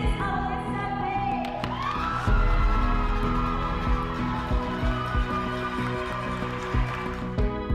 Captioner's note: cheering